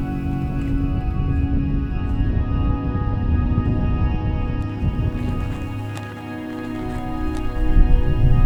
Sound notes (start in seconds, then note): 1.4 sound of wind